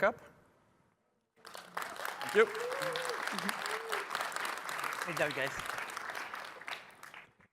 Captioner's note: applause